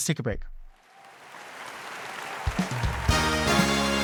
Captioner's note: audience applauds